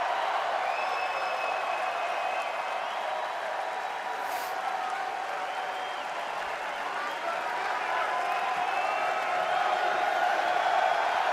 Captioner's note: cheers and applause